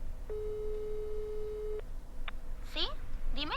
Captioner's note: line ringing